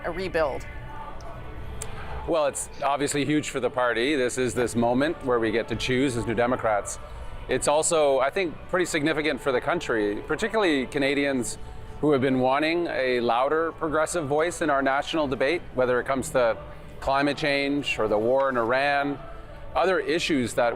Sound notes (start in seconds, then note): none